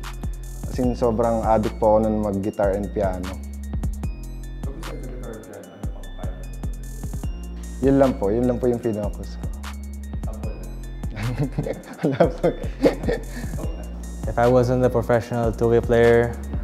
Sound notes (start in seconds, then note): 11.2 giggles